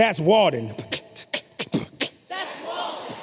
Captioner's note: beatboxes